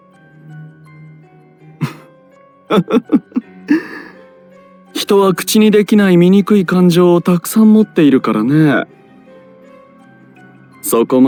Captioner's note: laugh